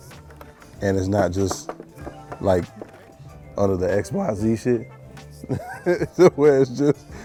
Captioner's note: laughs